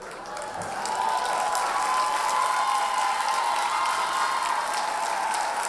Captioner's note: audience cheers and applauds